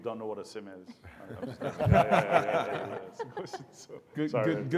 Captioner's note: audience laughs